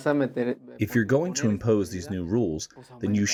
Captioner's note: through translator